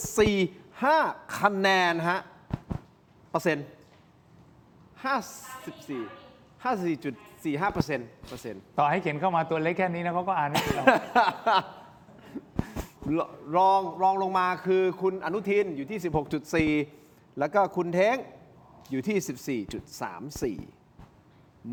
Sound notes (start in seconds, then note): 10.5 laughter